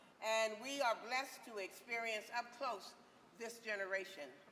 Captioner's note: none